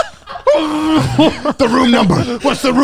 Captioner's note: laughs; murmuring